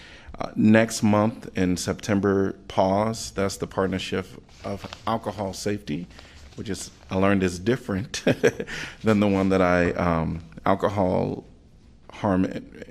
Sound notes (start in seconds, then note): 8.0 laughter